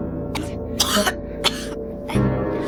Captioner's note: Tiffany coughing